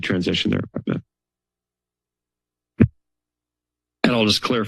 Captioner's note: silence